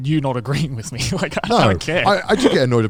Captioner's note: laughs